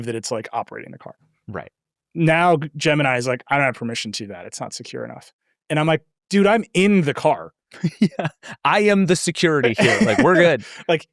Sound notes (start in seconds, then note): 7.8 laughs